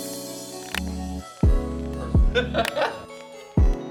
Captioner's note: laughing